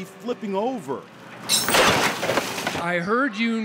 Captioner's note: crashes